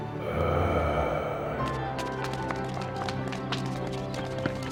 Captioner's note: eerie groaning